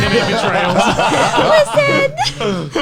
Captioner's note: laughs